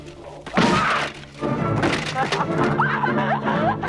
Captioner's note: armor clatters; both laughing